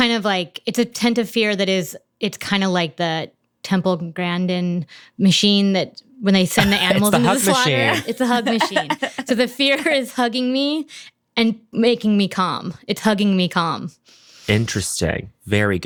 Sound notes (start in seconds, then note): 6.6 laughs